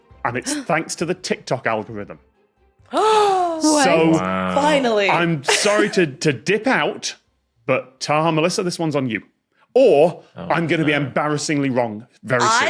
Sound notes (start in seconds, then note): 2.8 gasps